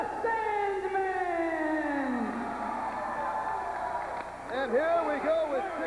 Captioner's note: crowd cheering